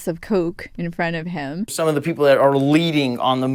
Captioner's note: soundbite of archived recording